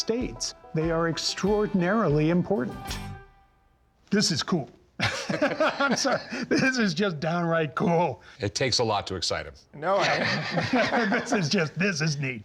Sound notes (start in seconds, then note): 5.0 both laugh; 9.8 laughs